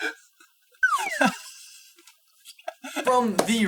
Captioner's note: slide whistle blowing